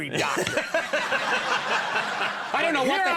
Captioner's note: Conan laughing; audience laughing